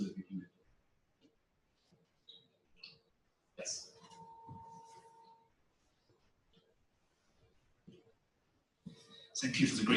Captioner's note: pause